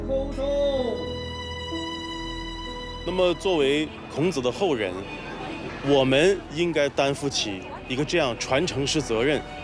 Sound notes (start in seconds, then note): 3.4 hablan un idioma extranjero